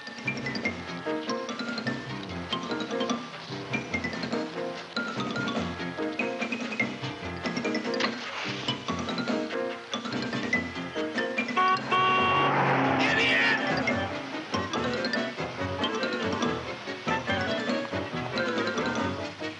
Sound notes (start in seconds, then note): 11.5 horn honking; 11.8 engine revving